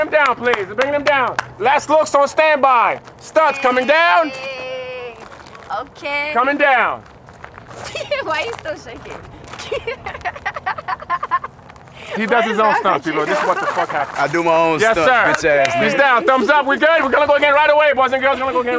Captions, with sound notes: THEY'RE BRINGING HIM DOWN. LAST LOOKS ON STANDBY. STUNTS COMING DOWN. -HEYYYYY, OKAYYYY -COMING DOWN. -WHY YOU STILL SHAKING? (LAUGHTER) -WHAT IS WRONG WITH YOU? -HE DOES HIS OWN STUNTS PEOPLE -THAT'S WHAT THE FUCK HAPPENED -I DO MY OWN STUNTS, BITCH ASS NIGGA. -YESSIR HE'S DOWN. THUMBS UP, WE'RE GOOD. WE'RE GOING TO GO AGAIN BOYS AND GIRLS. WE'RE GONNA GO AGAIN RIGHT AWAY